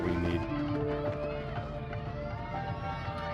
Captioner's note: cheering